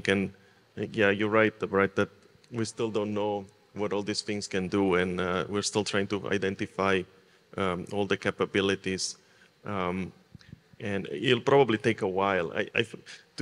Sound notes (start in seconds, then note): none